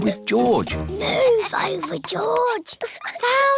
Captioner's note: whispers